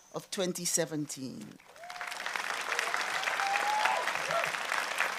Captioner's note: applause